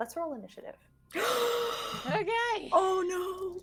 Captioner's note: gasping